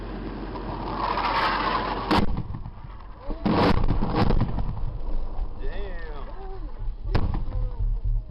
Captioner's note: aircraft noise and explosion